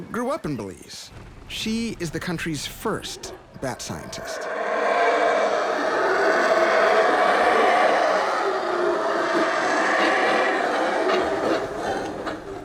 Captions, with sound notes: Gliselle grew up in Belize. She is the country's first bat scientist. (spider monkeys growling)